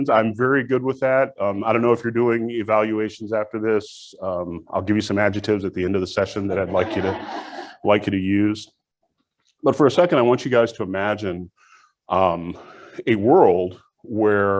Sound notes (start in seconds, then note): 6.5 audience laughs